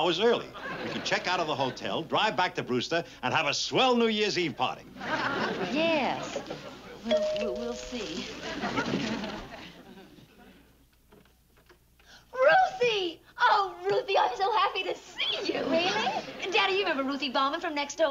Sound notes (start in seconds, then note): 7.1 doorbell rings